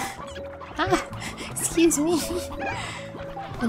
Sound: giggling

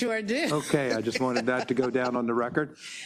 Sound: laugh

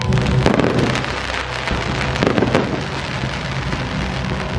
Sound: fireworks crackle

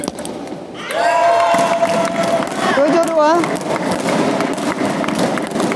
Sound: applause

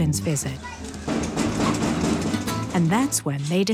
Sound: knocking on door

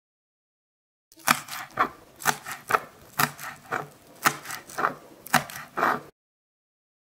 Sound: sound of chopping

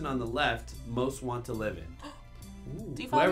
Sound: gasping

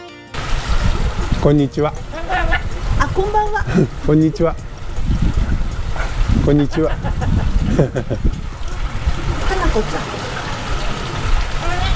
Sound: ahahahaha

